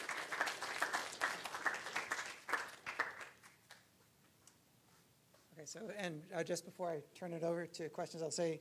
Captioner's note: applause